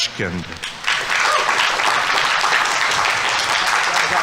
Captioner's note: audience clapping; audience members cheering